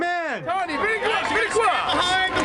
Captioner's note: man shouting indistinctly